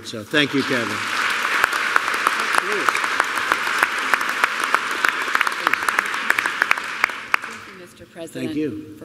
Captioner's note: applause